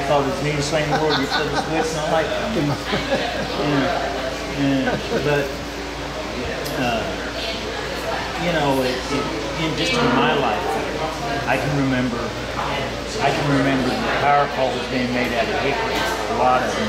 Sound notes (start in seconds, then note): 3.5 laughing